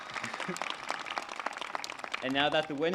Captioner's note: laughs